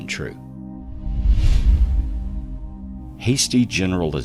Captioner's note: air whooshing